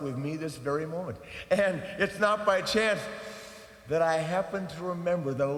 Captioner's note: inhales